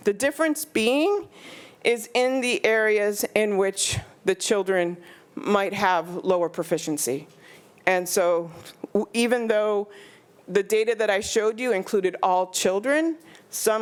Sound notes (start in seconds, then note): none